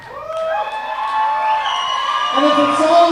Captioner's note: crowd cheering